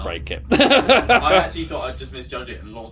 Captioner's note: laughs